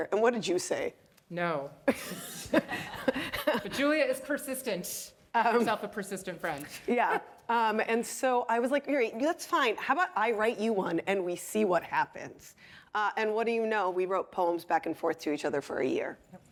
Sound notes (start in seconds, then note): 1.9 participants laughing